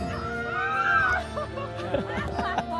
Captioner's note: screams again